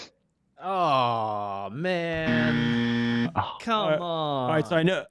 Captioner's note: buzzer buzz